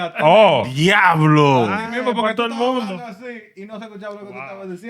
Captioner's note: speaking Spanish